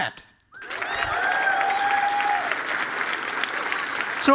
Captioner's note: cheering and applause